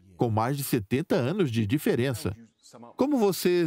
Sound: voiceover

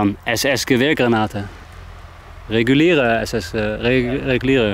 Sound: speaking in foreign language

